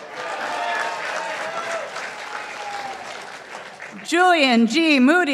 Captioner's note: participants applauding